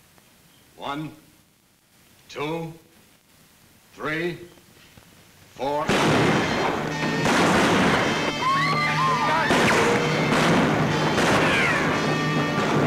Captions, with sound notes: One, two, three, four. (gun bangs) (guns bang) (women scream) (guns bang)